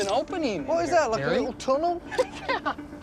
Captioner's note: laughs